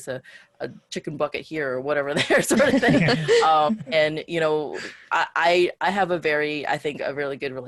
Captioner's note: laughs